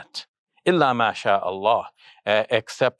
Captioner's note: speaks in Arabic